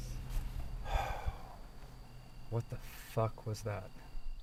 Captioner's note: insects chirping